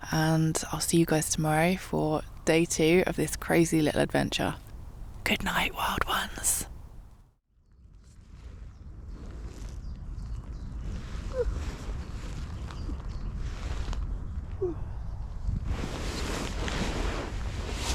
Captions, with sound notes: and I'll see you guys tomorrow for day two of this crazy little adventure good night Wild Ones *birds chirping* *yawn*